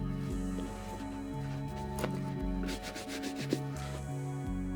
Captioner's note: brushing shoes